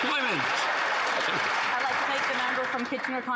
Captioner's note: some Applause